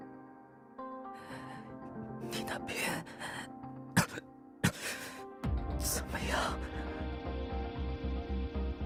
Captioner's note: cough